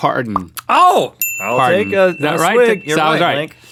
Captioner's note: ding